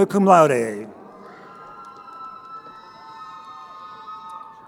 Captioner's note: crowd cheering